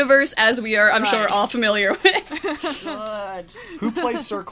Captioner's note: laughs